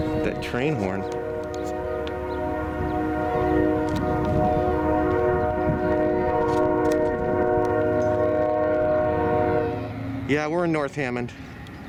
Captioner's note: train horn